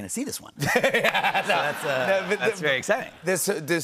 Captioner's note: laughs